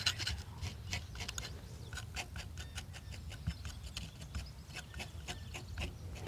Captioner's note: tapping